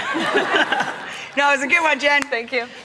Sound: audience laughs

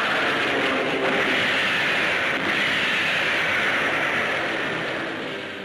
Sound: explosions booming

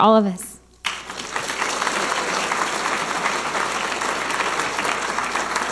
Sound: audience applauding

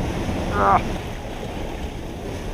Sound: grunts

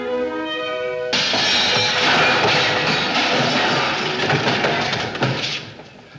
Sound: crash! bang! clang!

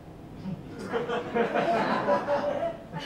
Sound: laughter

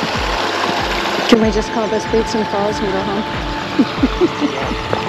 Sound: laughing

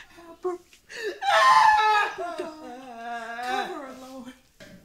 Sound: Trina sobbing continues

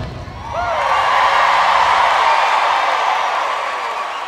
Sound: audience cheering

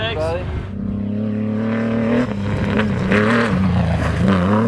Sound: engine revving

